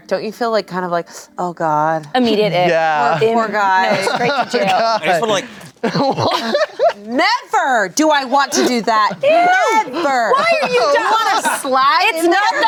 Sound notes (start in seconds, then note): 5.8 everyone laughs